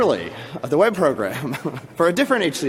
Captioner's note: chuckles